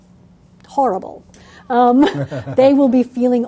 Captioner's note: laugh